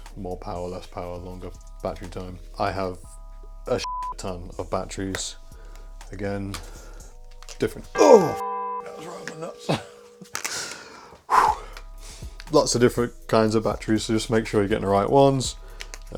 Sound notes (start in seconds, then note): 3.8 beep; 8.0 beep; 9.6 laughing